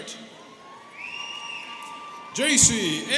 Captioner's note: students cheering